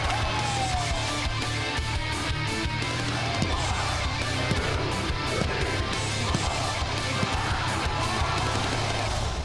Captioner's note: crowd cheering